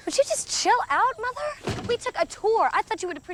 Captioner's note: scoffs